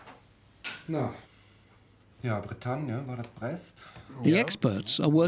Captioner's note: speaking German